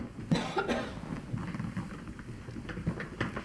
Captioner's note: coughing